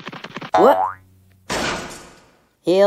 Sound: crash!

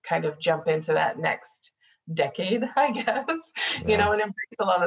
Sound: laughing

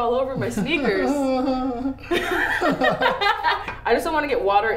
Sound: laughing

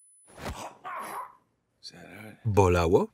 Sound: punching

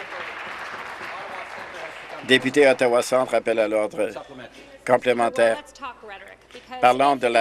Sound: applause

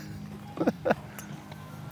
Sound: laughs

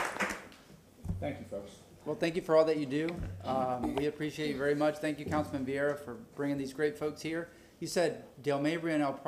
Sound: applause

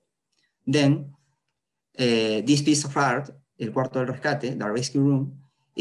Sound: spanish

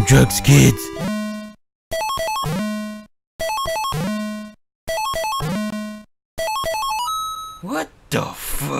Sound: Random Bootleg Mario sound effects

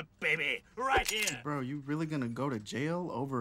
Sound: cocks gun

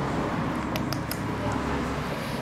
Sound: tongue clicks

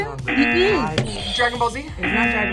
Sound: buzzer; buzzer rings; buzzer

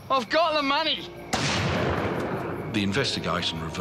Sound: gun fires

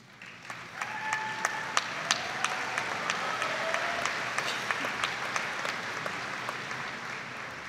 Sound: audience applauding

